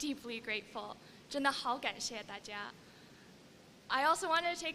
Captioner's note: non-english speech